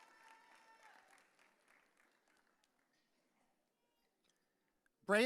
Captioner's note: audience cheering